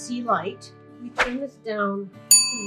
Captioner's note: air whooshes; bell dinging